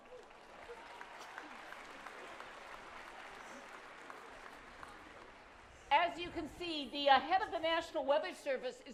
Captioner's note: applause